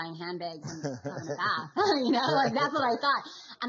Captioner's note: laughs